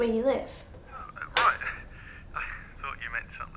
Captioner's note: laughing